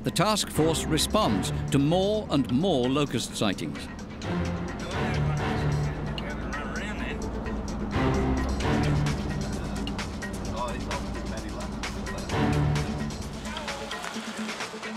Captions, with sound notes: the task force responds to more and more locust sightings. [indistinct chatter] [man shouts]